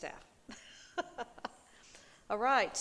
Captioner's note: laughing